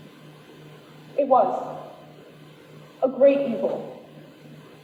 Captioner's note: none